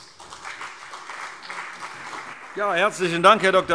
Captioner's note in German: Beifall CDU und BÜNDNIS 90/DIE GRÜNEN